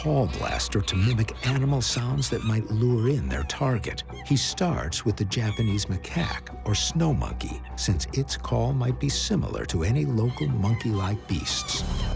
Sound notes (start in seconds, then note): 4.1 monkey chattering